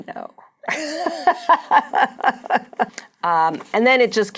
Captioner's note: laughing